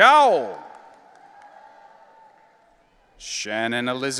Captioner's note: audience cheering